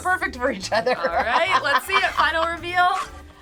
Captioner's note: laughs